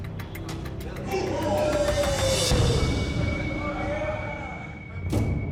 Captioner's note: inmates shouting in background